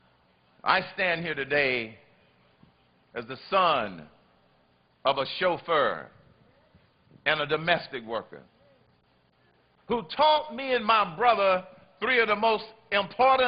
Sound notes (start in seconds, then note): none